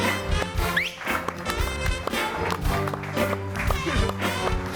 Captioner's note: audience applauding; upbeat music; person whistling